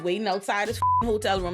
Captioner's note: beep